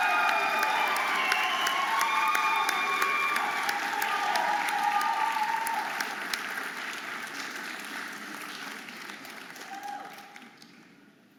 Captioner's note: audience applauding and cheering